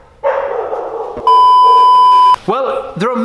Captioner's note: beep